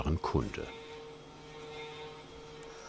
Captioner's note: distant whirring